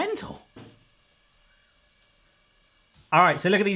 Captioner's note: snowball hits window